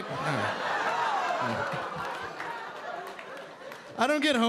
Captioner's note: audience laughing